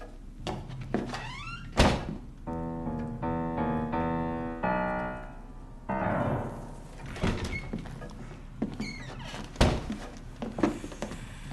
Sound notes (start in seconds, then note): 1.0 sound of door closing; 2.4 sound of piano; 6.0 sound of door opening